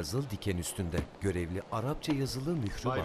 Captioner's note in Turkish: Damga vurma sesi